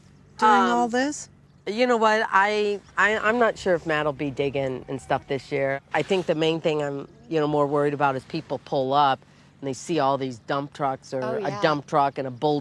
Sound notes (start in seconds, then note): none